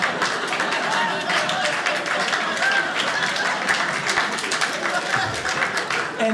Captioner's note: audience laughing; audience applauding